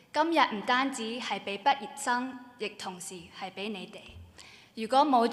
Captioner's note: speaking Cantonese